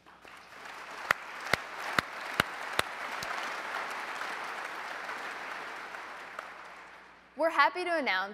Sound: applause

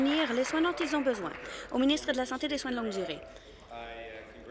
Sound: applause

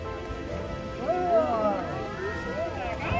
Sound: crowd

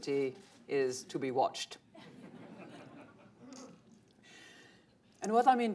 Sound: laughter

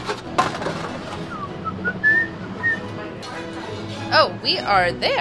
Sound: upbeat classical music; whistling

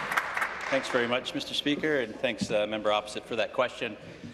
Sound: applause

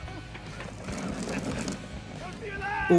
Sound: chuckles

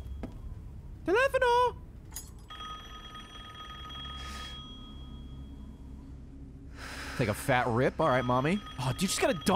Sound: phone rings

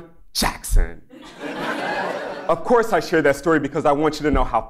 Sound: laugh

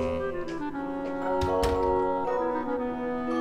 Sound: door closes

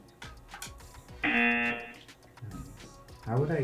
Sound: buzzer

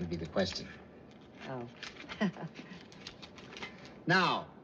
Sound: chuckles

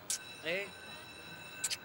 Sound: bell rings

